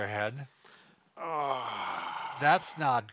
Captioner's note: sighs